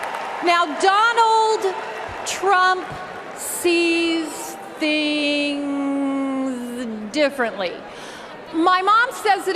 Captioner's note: cheers and applause